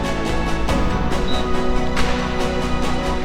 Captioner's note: referee whistle